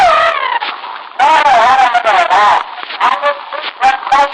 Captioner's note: trills